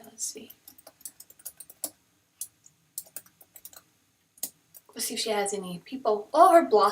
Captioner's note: typing sounds